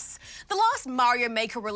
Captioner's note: none